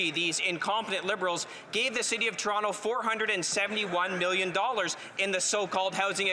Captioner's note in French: voix de l'interprète